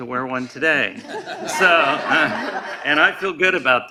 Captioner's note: laughing